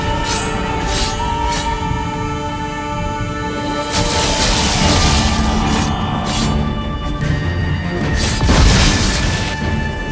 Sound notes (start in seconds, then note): 3.9 electricity crackles; 8.3 lightning cracks